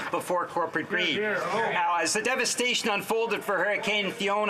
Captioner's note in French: voix de l'interprète